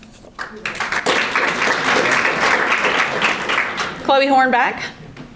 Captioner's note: audience applauding